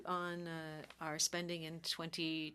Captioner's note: speaking French